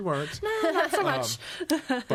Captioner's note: laughing